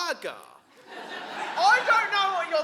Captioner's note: audience laughing